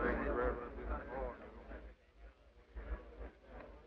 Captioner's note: men chatter